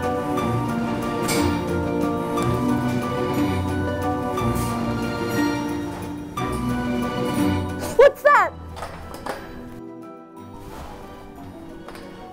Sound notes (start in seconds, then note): 0.1 spooky music plays; 8.9 rustling noise